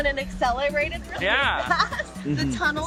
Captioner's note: chuckling